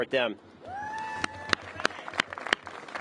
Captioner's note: applause